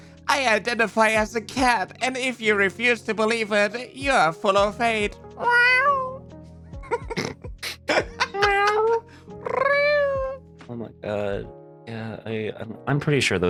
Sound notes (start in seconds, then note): 5.4 cat noises